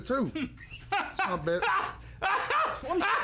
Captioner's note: laugh